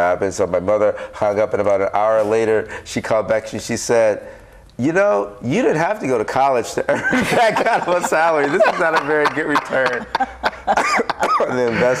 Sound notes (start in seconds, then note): 6.9 group laughs